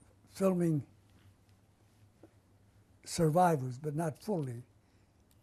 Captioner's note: none